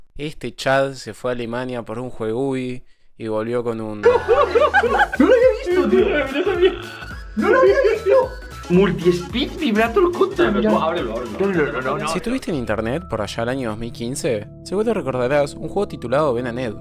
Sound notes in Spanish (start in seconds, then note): 4.0 risas